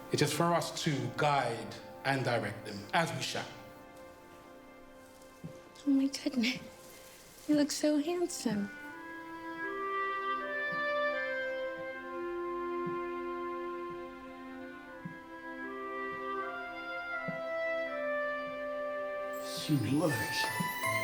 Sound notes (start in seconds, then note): 10.9 footsteps plodding; 10.9 gentle music